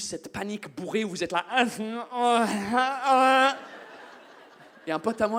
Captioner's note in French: bruits ivres